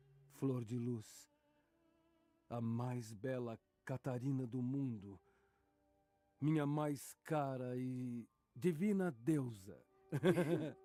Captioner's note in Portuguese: risadas